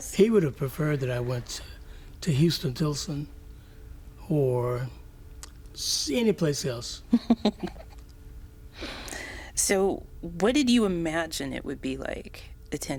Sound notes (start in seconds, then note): 7.1 laughs